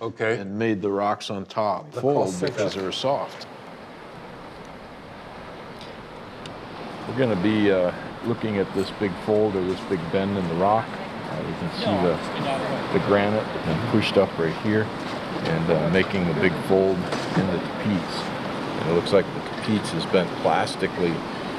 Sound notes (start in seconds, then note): 3.5 water flowing